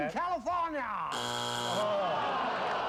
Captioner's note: buzzer